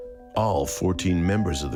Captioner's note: people chattering